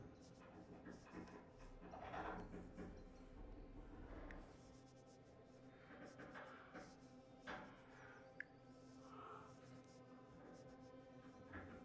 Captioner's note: scratching sounds